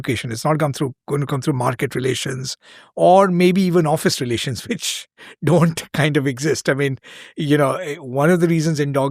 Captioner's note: chuckles